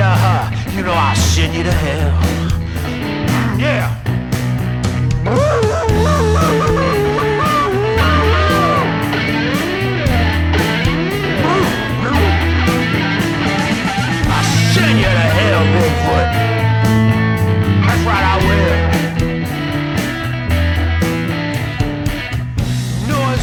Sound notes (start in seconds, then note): 5.2 Bigfoot howling